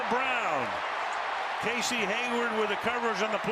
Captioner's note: cheering